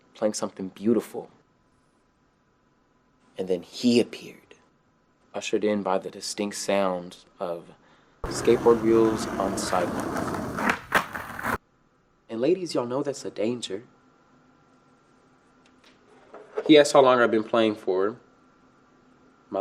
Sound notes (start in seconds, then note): 10.0 skateboard wheels on sidewalks